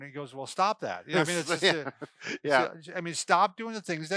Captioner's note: laughs